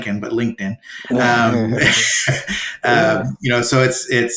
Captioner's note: chuckling